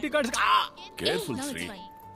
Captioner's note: Groans